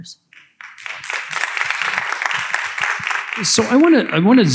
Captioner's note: audience applauding